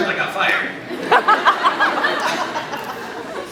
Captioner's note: laughs